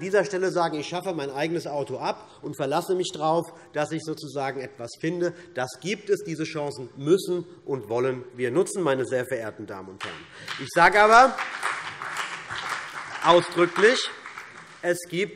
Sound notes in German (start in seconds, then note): 10.0 Beifall CDU und BÜNDNIS 90/DIE GRÜNEN